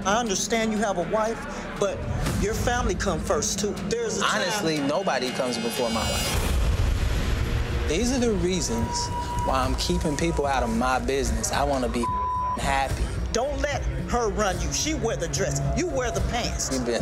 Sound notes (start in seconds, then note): 6.7 intense music; 12.0 beep